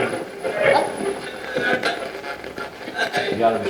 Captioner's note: radio voice